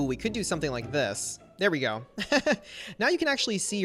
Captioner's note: laughs